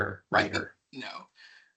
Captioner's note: chuckling